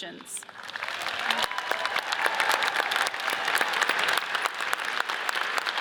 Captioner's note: audience cheers and applauds